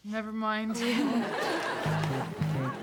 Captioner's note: audience laughing; upbeat techno music